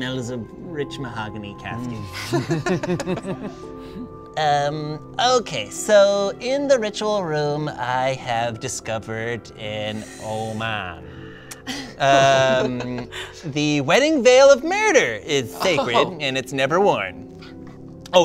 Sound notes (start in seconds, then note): 2.1 all laugh; 11.7 laughs